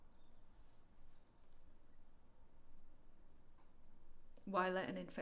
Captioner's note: birds continue chirping